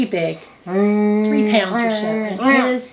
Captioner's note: humming